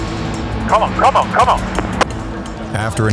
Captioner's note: dramatic music; radio Voice